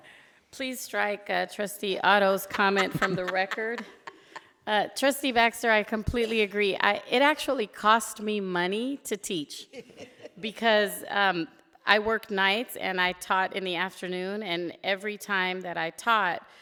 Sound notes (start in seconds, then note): 2.5 laughs